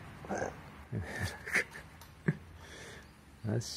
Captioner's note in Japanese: 苦笑